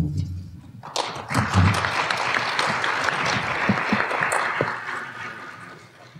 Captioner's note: applause